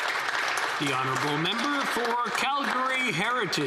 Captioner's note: some Applause